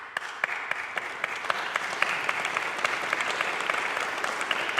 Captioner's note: audience applauding